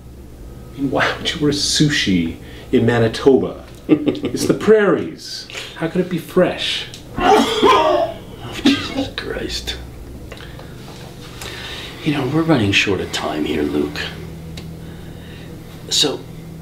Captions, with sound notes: I mean, why would you order sushi in Manitoba? (Mr. Z chuckles) How could it be fresh? (more vomiting) Jesus Christ! You know, we're running short on time here Luke.